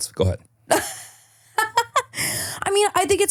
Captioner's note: laughing